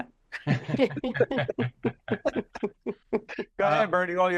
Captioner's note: laughing